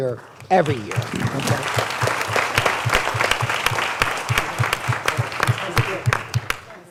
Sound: applause

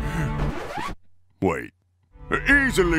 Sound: record scratch

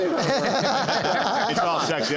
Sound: laughter

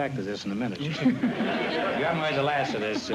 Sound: laughter

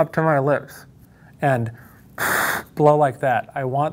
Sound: blows

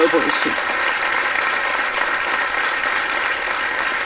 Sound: applause

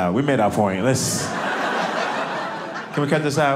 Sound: audience laughing

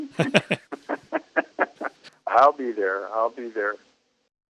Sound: laughs

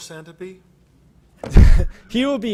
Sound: laughter

